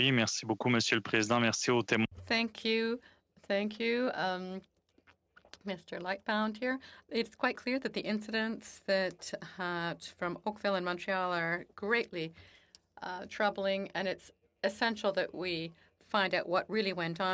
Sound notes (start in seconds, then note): 5.7 speaking French